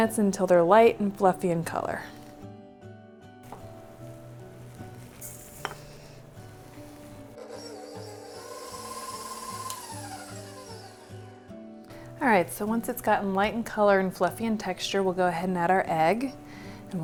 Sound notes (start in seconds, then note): 2.6 gentle music; 7.4 machine whirring